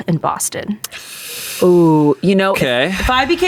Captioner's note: sucks teeth